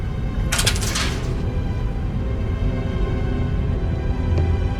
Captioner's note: metal rattling